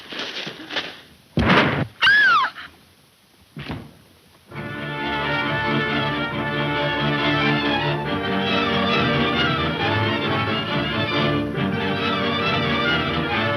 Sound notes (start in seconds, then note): 1.4 gun firing; 2.0 Mary screams; 4.7 dramatic music